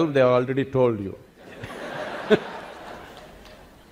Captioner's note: laughter